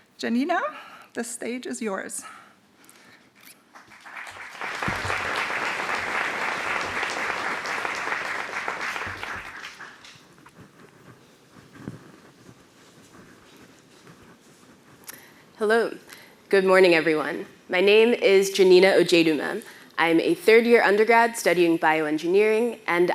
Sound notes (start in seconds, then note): 3.7 applause